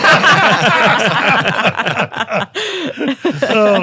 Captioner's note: panel laughing